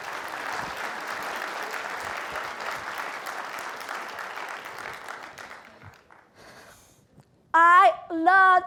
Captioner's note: applause